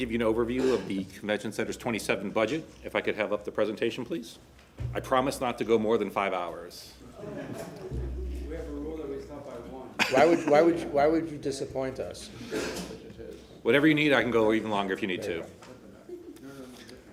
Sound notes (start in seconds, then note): 10.0 laughter